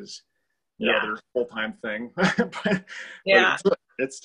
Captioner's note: laughs